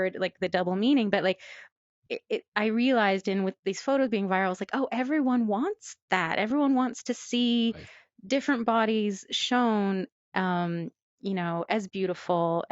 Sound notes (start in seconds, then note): none